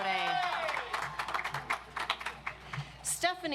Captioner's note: audience applauds